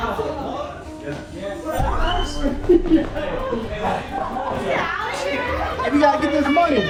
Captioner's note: group continues exclaiming, yelling